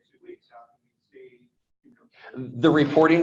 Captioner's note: speaks faintly